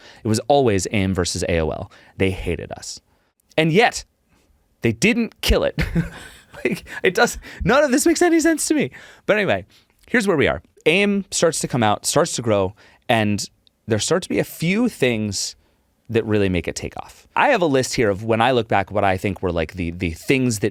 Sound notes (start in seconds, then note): 5.7 chuckle